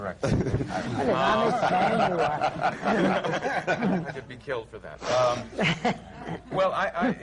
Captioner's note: laughter